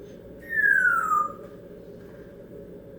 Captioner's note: whistling down